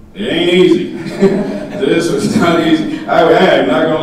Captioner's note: audience laughing